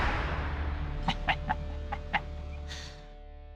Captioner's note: laughs